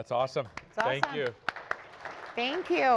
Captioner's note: applause